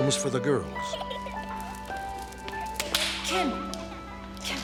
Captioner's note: girls laughing